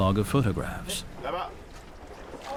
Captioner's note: speaking French